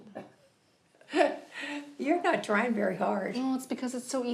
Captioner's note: chuckles